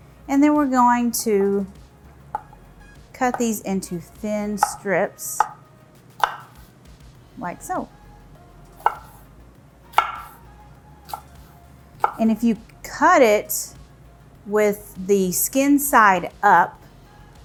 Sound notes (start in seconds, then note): 8.3 knife thudding; 8.3 upbeat music